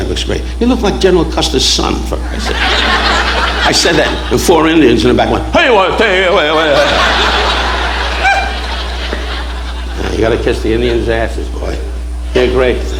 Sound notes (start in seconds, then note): 5.0 imitating Native American chant; 5.8 audience laughing